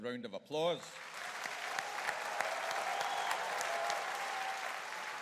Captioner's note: audience cheering